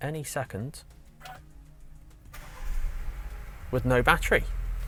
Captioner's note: car Engine Starts